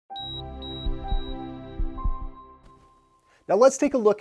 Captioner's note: heart monitor beeping, soft bells chiming